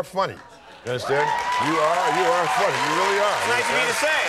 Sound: audience applauding

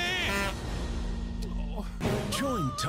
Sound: beresford sighs

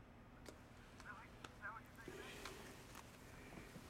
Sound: indistinct chatter over phone continues

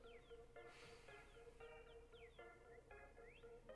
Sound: phone rings

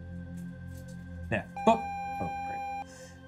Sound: video game screen beeping

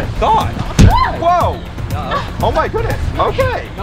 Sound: screams

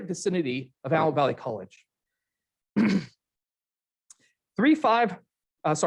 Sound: clears throat

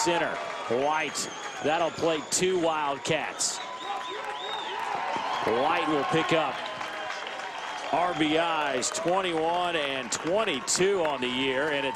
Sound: cheers

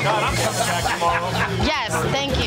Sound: laughs

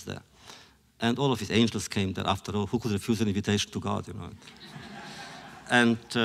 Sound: laughter

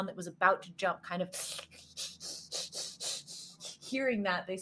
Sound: Deborah snarls

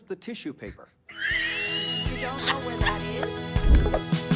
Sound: wheeze Laughter

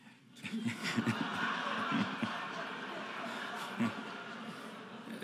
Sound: audience laughing

